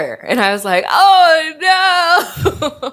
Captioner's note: laughs